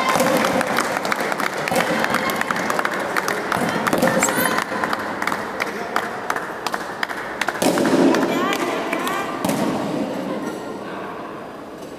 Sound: applause

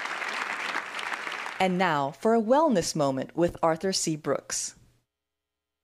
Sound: applause

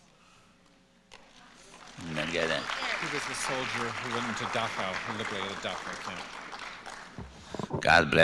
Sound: applause

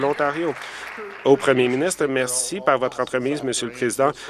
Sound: applause

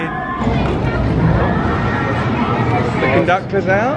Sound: crowd chattering

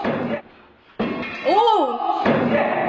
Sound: loud bang

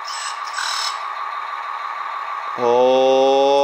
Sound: engine revving

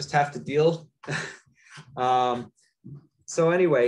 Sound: laughs

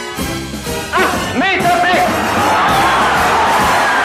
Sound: upbeat music; man speaking in foreign language; crowd cheering

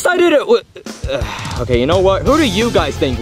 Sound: grunting

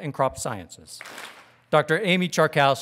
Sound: audience claps

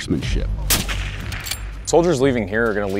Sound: gunshot

